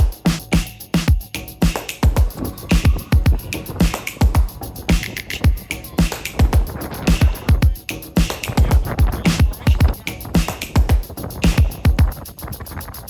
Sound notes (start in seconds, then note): 7.0 wind rustling